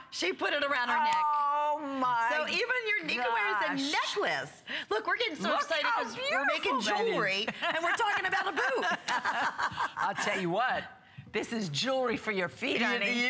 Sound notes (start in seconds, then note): 9.9 laughter